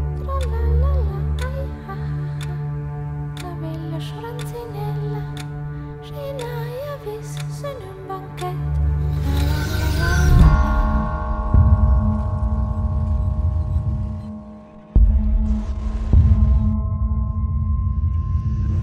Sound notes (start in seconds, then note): 10.8 bell tolling; 14.9 drums thudding